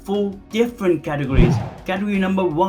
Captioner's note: air whooshing